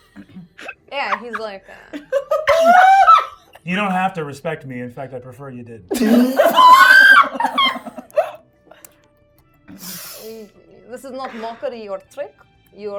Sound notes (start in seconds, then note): 2.7 shocked giggling; 5.9 everyone laughing